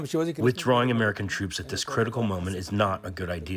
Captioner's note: through translator